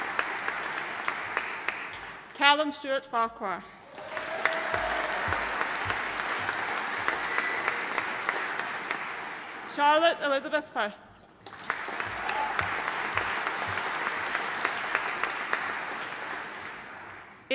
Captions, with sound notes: Calum Stuart Farquhar. (AUDIENCE APPLAUDING) Charlotte Elizabeth Firth. (AUDIENCE APPLAUDING)